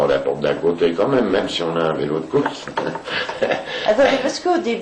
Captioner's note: laughs